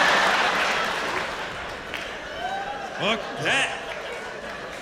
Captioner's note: laughter